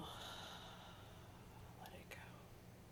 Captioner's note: sighing